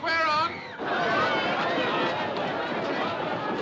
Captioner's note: Gritando, clamando